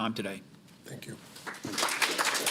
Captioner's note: applause